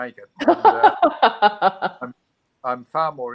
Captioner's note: laughs